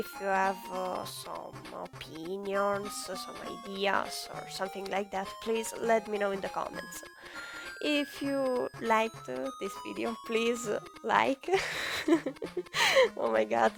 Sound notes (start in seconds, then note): 11.6 laugh